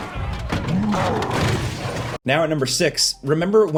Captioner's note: Hulk grunting; crowd exclaiming; metal crashing